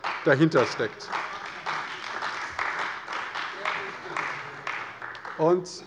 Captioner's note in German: Beifall bei der CDU